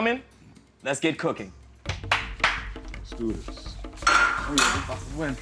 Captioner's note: claps